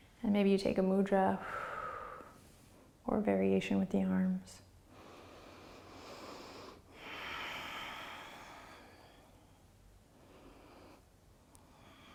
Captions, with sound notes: And maybe you take a Mudra. (exhaling) Or a variation with the arms. (deep breathing)